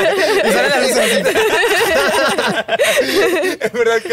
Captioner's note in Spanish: Risas